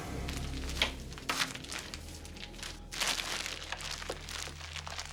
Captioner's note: none